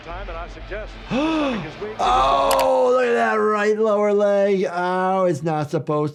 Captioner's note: gasps